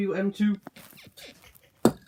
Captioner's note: bed squeaks again